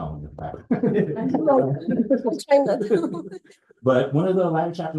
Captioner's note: laughter